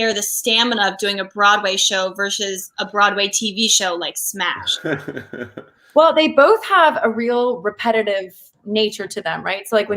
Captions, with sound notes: the stamina of doing a Broadway show versus a Broadway TV show like Smash. (laughs) - Well, they both have a real repetitive nature to them, right?